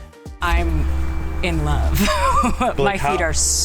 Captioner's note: laughs